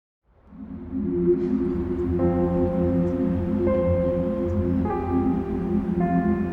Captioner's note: quiet city sounds; gentle music